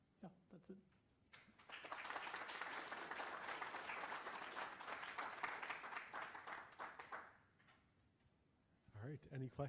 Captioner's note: applause